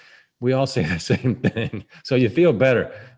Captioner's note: laughs